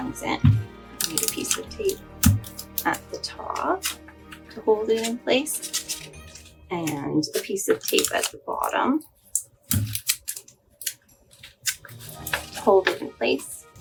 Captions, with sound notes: This is where the tape comes in. I need a piece of tape at the top to hold it in place and a piece of tape at the bottom [sound of cutting tape] to hold it in place.